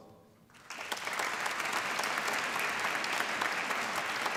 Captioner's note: applause